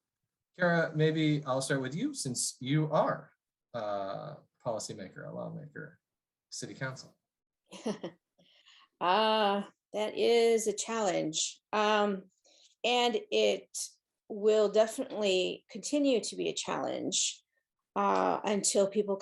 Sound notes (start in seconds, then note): 7.7 laughter